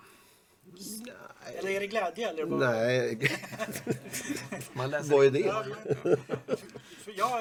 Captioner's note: laugh